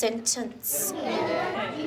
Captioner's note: kids chatter busily